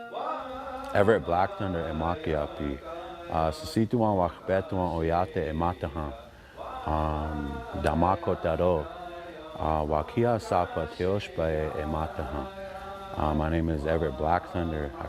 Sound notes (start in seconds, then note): 1.2 speaking in Dakota